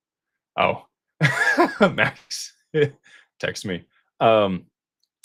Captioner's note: laughter